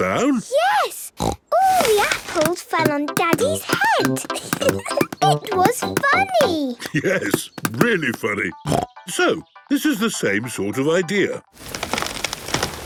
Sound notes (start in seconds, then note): 4.0 giggling; 8.7 snorting